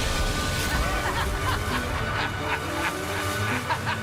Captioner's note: leaf blower revving up